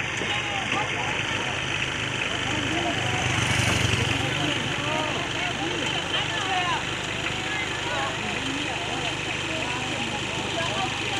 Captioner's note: car sound